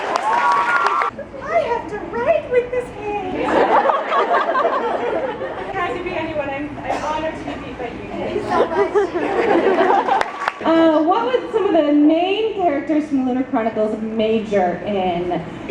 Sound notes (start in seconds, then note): 3.3 audience laughs